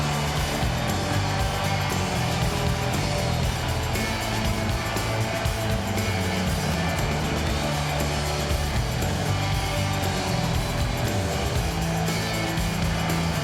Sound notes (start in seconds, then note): 2.4 crowd cheering continues; 2.4 upbeat music continues